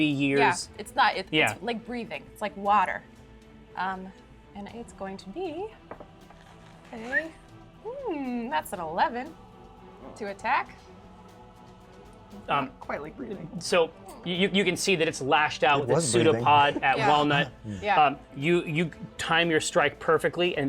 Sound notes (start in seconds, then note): 7.0 whistles; 13.7 whimpers